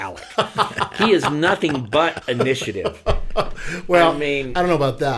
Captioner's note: men laughing